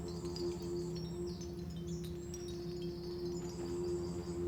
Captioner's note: wind chime jangling